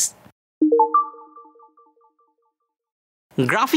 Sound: text chiming

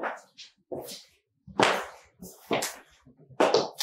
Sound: footsteps

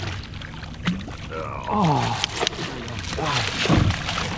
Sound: fish splashing

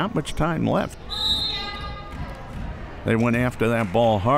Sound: whistle

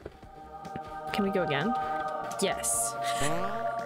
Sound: laughs in evil

